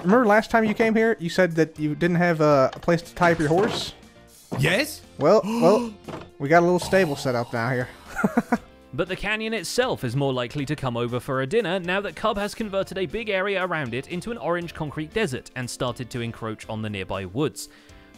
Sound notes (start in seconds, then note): 6.8 gasps; 8.0 laughs